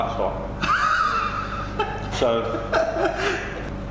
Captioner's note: laughing